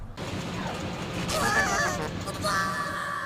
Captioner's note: rabbid screams in pain